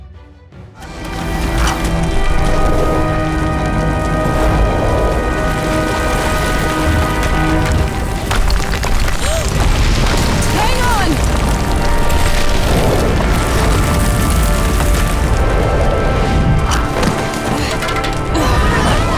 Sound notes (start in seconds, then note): 8.9 gasps; 18.3 grunting